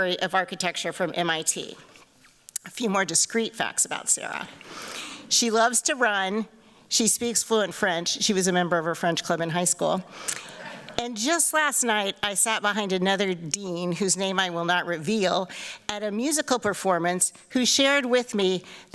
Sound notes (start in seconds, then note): none